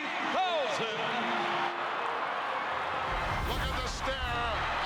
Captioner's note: applause